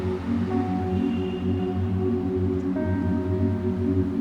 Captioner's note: cars honking